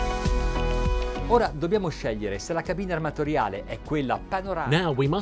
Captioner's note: speaking in a foreign language